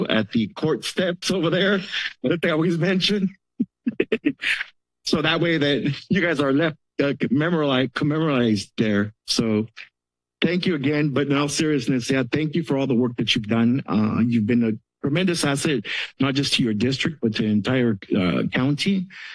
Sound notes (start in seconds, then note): 3.6 laughs